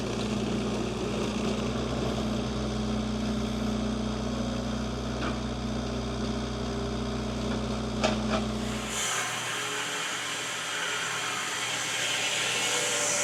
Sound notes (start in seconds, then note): 0.0 tractor rumbling continues; 8.5 woodcutter machine hissing